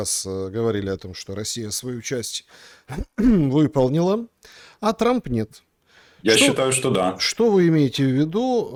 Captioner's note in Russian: откашливается